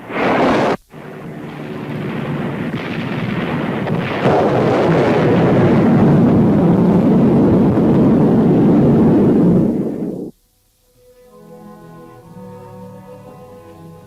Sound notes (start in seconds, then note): 0.1 torpedo whooshing; 4.5 explosion booming; 11.0 dramatic music